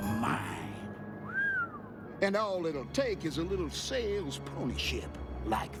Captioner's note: whistles